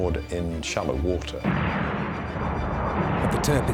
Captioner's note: firing